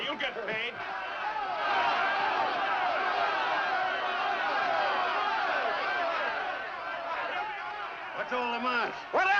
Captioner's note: men shouting